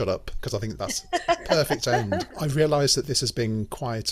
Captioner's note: group laugh